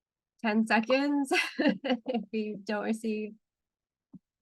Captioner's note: chuckles